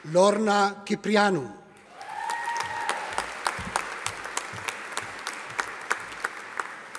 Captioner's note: audience applauding